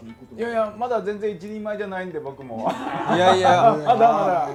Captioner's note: laughs